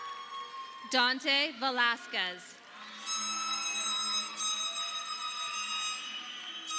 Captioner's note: audience cheering